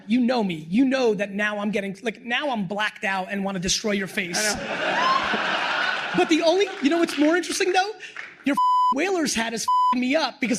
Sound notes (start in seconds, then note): 4.4 laughter; 8.5 beep